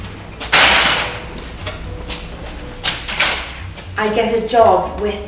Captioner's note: door banging